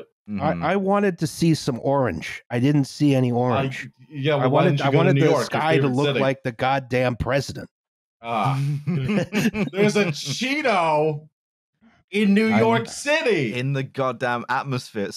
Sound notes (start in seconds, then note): 8.6 laughter